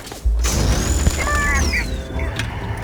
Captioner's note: screams